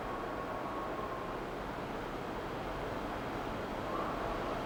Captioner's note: wind howling